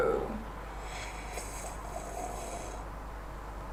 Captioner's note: loud sipping noises